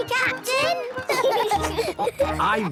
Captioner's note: laughing